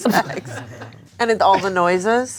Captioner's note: everyone laughs